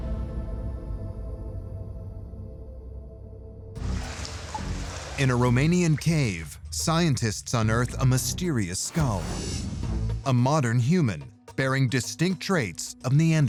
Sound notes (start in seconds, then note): 3.7 water dripping and sloshing